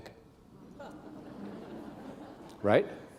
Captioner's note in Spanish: risas